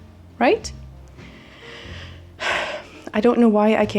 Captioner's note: sighs deeply